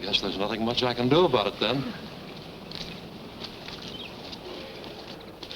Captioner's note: walking footsteps